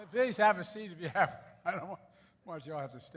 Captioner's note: laughs